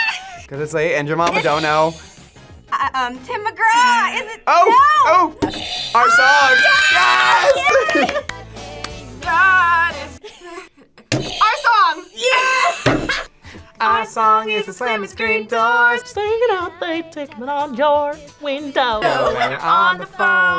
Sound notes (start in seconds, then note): 0.0 screams; 1.3 buzzer rings; 5.2 buzzer rings; 11.2 buzzer rings; 12.9 bell rings